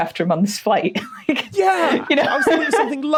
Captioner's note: laughs